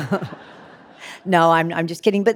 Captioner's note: laughing; audience laughing